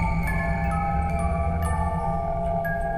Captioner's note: wind howling